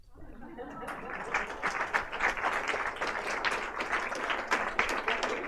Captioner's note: audience laughter and applause